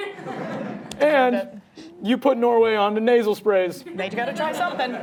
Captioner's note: audience laughing; audience laughing